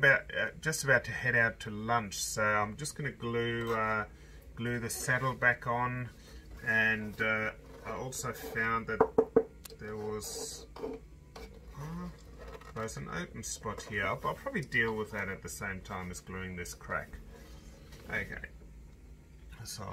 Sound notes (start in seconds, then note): 8.9 knocking; 11.3 scraping